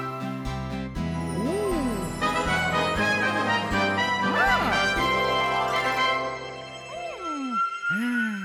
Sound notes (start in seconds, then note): 1.0 chimes tinkling